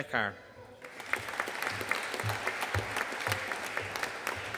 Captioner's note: audience applauding